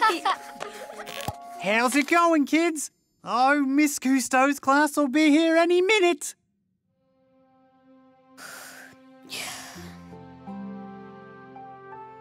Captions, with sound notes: - How's it going, kids? Oh, Ms. Cousteau's class'll be here any minute. (Finny sighing)